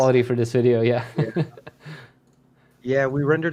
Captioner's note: laughing